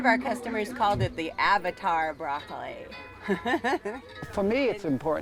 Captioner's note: laughs